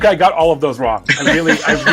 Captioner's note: presenters laugh